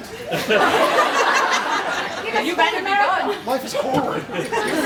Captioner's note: laughs